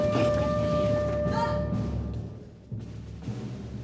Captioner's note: chris yelps